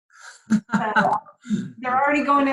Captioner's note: laughs